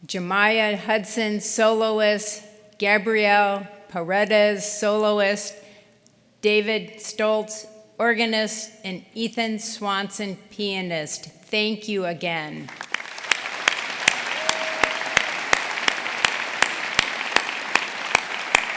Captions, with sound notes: Jamiyah Hudson, soloist, Gabriel Paredes, soloist, David Stultz, organist, and Ethan Swanson, pianist. Thank you again. (audience applauding) (audience cheering)